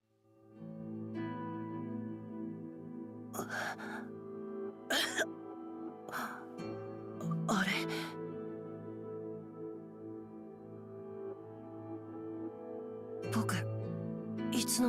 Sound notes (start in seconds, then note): 4.9 cough